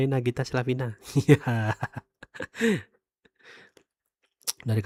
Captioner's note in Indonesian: tertawa